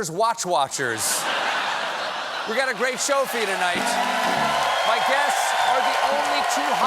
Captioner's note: laughter